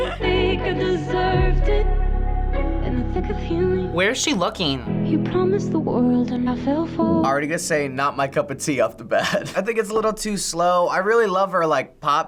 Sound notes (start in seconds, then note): 0.0 laughs; 9.2 chuckles